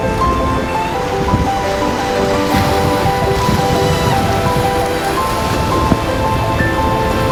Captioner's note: triumphant music continues; water cascading